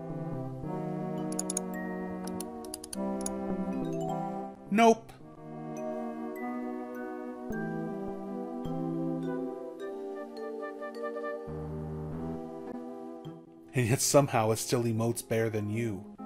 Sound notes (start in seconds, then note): 1.3 sounds of mouse clicking